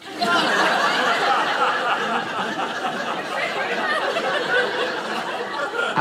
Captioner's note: audience laughing